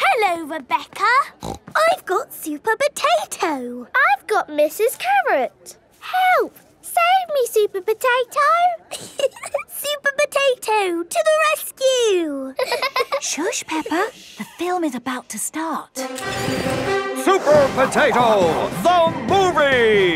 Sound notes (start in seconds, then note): 12.6 both laughing; 16.0 heroic music